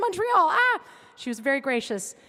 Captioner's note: yelping